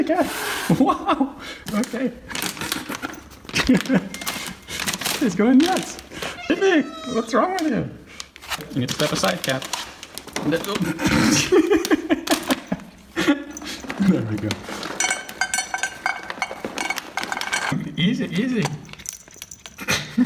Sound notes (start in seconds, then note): 6.2 Fifi meowing; 10.6 laughing